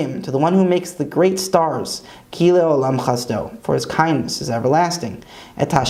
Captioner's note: Hebrew; Hebrew